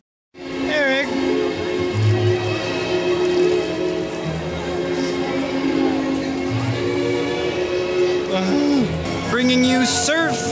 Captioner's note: deep sigh